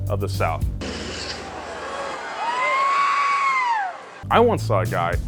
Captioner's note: crowd cheers; engine barks and stalls